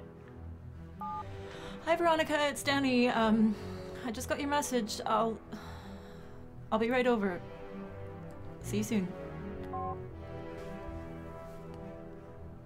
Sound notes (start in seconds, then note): 1.0 beep